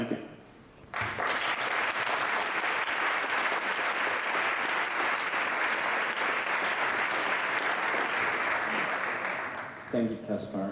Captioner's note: applause